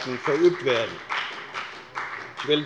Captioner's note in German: Beifall bei der FDP